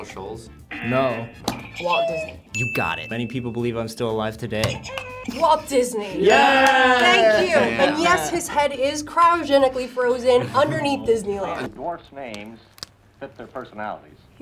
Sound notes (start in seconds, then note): 0.7 buzzer rings; 1.0 buzzer; 4.8 buzzer rings